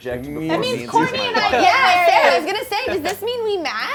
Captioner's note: overlapping chatter